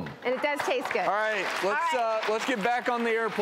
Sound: applause

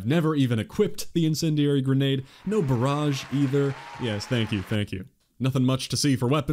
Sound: applause

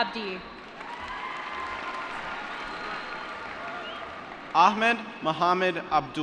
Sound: cheering

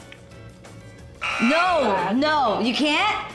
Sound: buzzer sounds

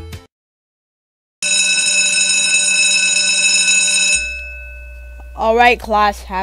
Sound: school bell ringing

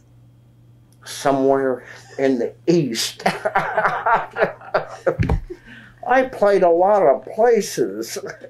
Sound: laughter

